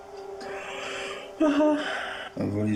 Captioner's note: yawn